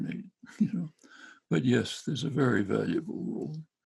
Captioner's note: chuckling quietly